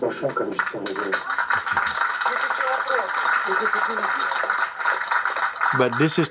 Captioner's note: clapping